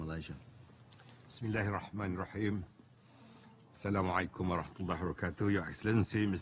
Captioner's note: deputy Prime Minister speaks foreign language